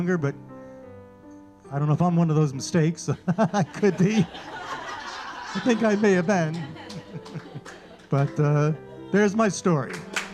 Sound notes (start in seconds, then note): 3.0 audience laughing; 3.1 laughing; 9.7 audience clapping